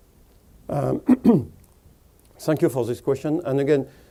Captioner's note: clears throat